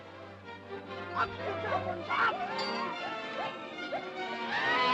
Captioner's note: shouting at animals; elephants screeching